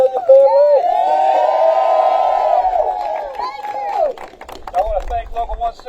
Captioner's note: applause